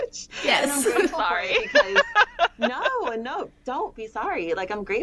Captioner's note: laughter